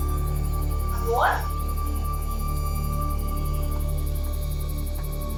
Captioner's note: woman speaking Spanish